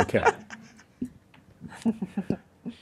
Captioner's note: laughs